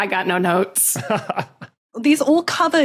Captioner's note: chuckles